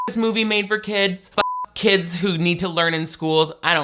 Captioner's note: beep